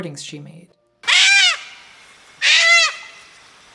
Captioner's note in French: cris d'oiseaux